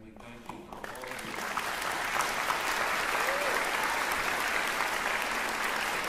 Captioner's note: cheering, applause